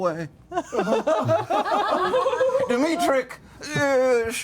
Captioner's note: laughter